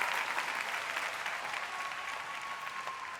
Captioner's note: cheers and applause